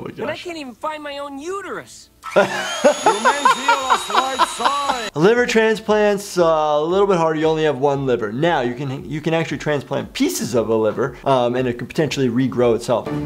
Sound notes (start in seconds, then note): 2.2 saw whirring; 2.3 laughing; 13.0 tense music